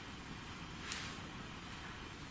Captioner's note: none